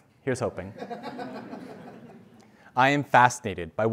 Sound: laugh

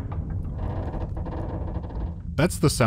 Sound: quiet sound of metal contorting under strain

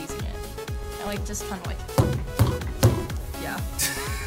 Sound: table thuds

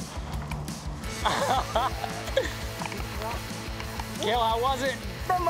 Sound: laughter

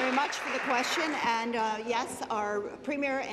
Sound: applause

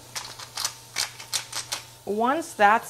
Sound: pepper grinder grinding

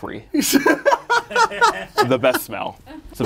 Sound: laughs

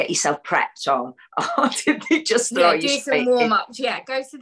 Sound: laughter

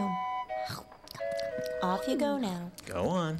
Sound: munching

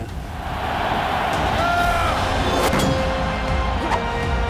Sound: men grunting

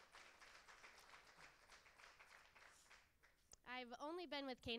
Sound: cheers and applause

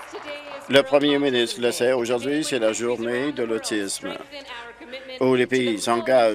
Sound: some Applause

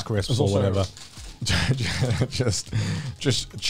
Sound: laughs

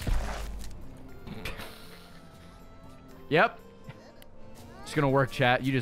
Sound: laughs

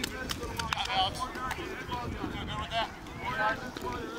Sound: chatter

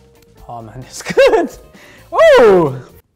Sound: laughs

